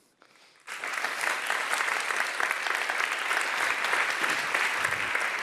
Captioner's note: applause